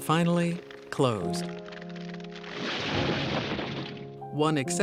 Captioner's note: brick and metal crashing